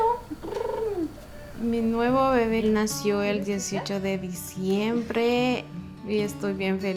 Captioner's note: in Spanish